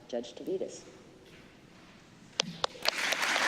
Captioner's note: applause